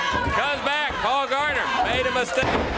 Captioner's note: crowd chatter